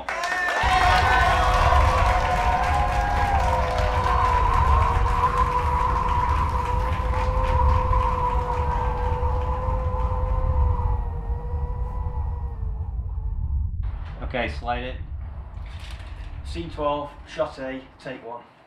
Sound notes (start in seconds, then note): 1.2 group applauding; 3.7 wind howling